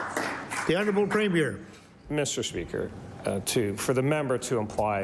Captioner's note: applause